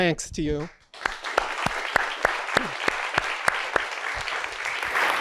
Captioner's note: audience applauds